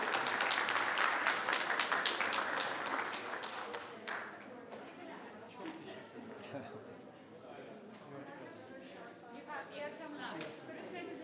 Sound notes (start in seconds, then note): 4.7 people chattering